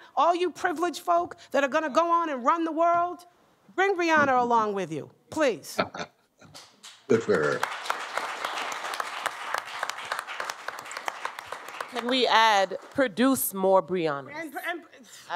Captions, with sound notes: all you privileged folk that are going to go on and run the world, bring Brianna along with you, please. Good for her. [APPLAUSE] Can we add, produce more Briannas.